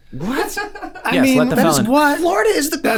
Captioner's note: laughs